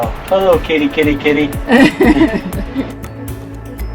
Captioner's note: laughing